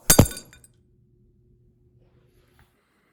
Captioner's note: screen breaks